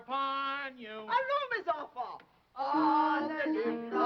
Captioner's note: speaking foreign language